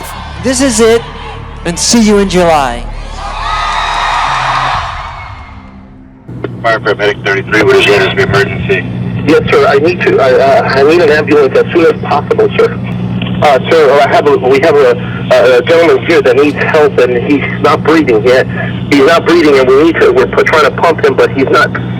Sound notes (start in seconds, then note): 2.9 crowd cheers